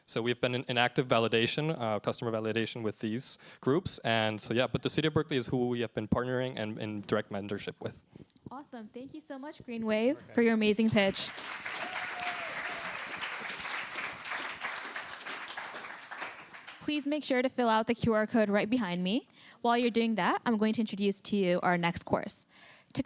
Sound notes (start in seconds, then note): 10.9 cheers, applause